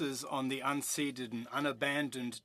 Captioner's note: speaking French